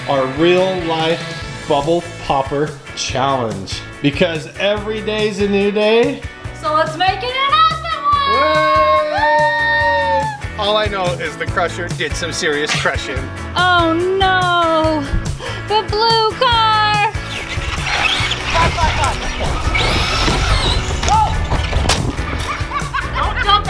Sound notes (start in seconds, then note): 17.2 car whirs; 20.6 gentle music